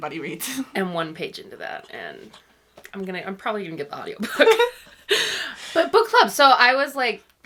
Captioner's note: laughs